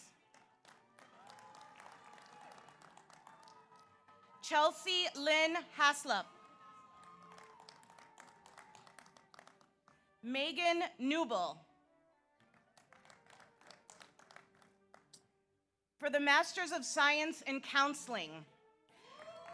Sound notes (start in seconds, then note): 0.2 audience applauds; 1.0 audience cheers; 6.2 audience applauds; 12.6 audience applauds; 19.0 audience applauds; 19.0 audience cheers